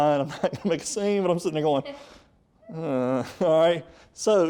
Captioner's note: frustrating grumble